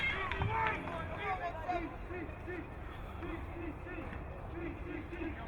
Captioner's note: crowd cheering